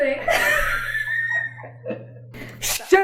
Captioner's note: both laugh